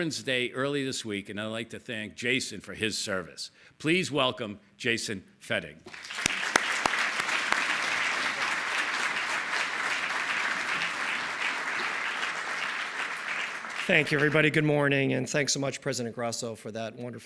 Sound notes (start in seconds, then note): 9.1 applause